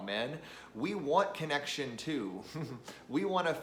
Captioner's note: chuckles